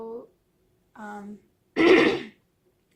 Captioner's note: clears throat